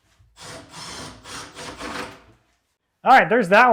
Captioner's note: drill whirring